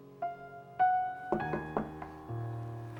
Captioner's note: knock on door